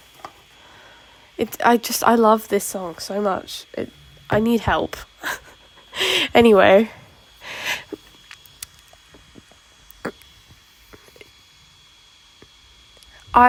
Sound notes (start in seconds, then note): 5.2 chuckle; 7.2 long silence